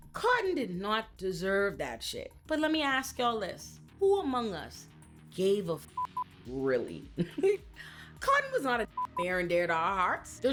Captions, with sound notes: Cotton did not deserve that shit. But let me ask y'all this, who among us gave a (beep) really? Cotton was not a (beep) fair and dear to our hearts.